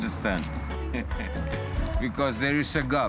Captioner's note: laughs